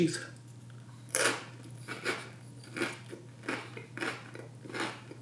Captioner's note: cracker crunches